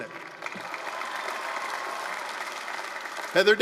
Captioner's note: applause, cheering